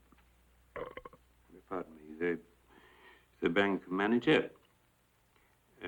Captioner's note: burping